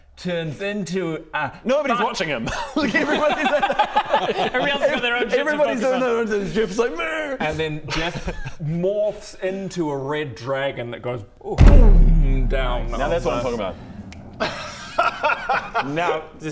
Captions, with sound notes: turns into a Nobody's watching him *disrespectful laughter* everybody else has got their own shit to focus on everybody's doing their own thing, Djeoph's like mnrhh And then Djeoph morphs into a red dragon that goes *BOOOOM* down on the Now that's what I'm talking about *laughs* Now